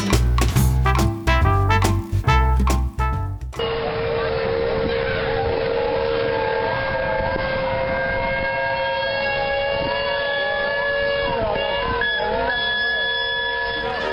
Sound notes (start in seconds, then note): 2.1 loud fire crackers exploding; 2.1 steam engine whistles